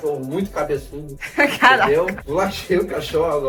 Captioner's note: chuckles